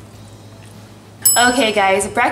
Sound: ding

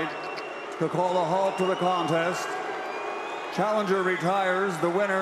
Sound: crowd booing

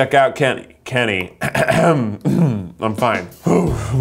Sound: clears throat

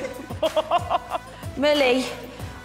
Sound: laughter

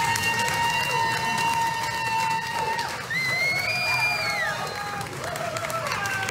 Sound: clapping

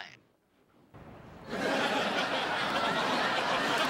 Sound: laughter

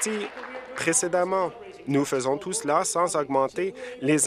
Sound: applause

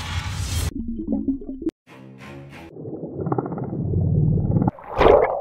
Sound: underwater whooshing

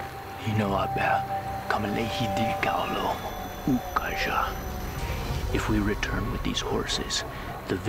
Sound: speaking crow language

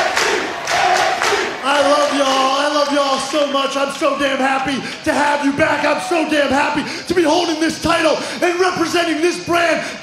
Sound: crowd chanting "nxt"

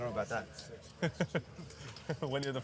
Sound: laughing

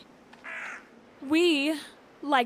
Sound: crow caws

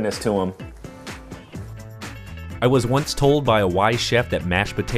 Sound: voiceover

